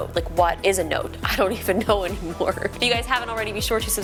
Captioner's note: laughing